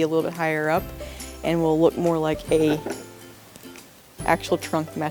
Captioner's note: rattle